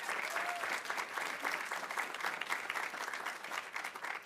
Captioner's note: audience applauding